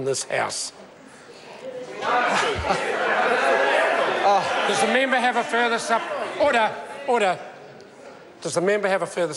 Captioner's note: members shout